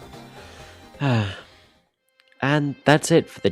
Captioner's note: sigh